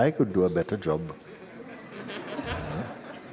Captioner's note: laughter